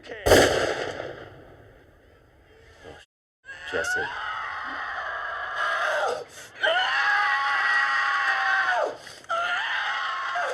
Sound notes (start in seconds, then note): 0.2 gunshot; 4.6 scream